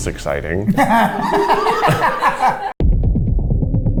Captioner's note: all laughing; suspenseful music